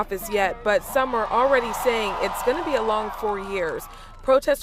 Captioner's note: applause